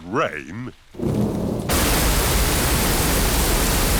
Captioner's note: thunder rumbling